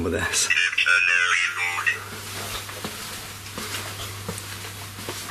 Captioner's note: Ovilus chattering